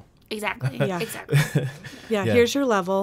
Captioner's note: laughs